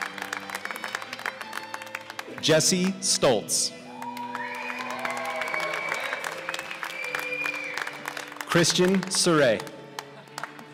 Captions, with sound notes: Jesse Stoltz (cheers and applause) Kristian Surray